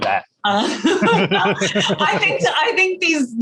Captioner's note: both laughing